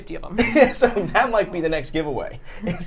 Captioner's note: laughs